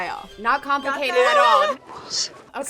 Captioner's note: laughs